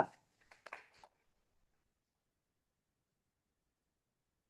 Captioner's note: audience applauding